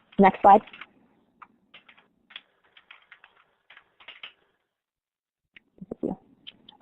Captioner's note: silence